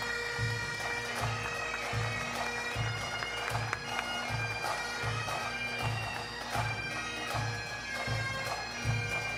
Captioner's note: bagpipe music; applause; bagpipe music